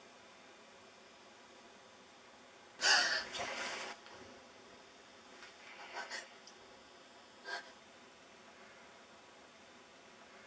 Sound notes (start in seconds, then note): 2.8 Kate gasping